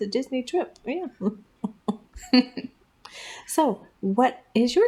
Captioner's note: laugh